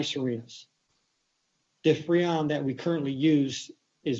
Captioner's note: distorted sound